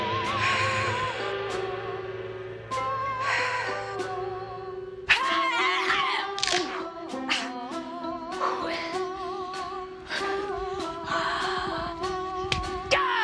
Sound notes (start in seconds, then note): 0.1 japanese music; 6.3 bones cracking; 8.7 japanese music